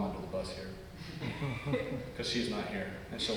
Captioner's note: audience laugh